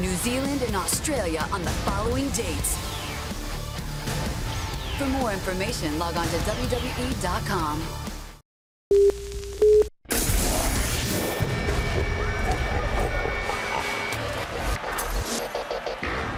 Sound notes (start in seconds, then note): 7.6 beeping; 12.2 evil laughter